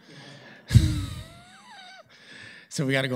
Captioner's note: laughter